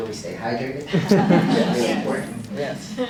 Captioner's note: audience laughing